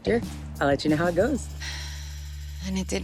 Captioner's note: sigh